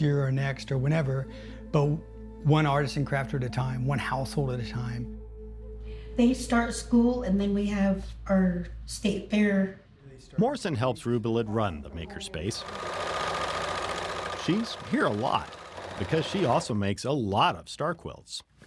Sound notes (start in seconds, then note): 12.5 machine whirring loudly